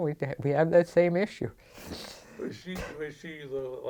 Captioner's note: laughs